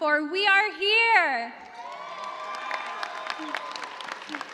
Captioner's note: cheers and applause